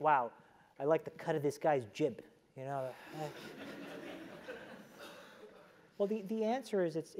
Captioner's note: laugh